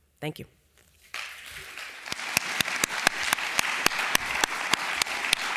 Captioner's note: applause